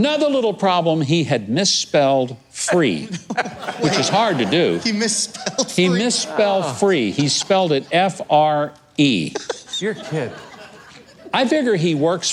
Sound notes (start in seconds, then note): 4.8 laughter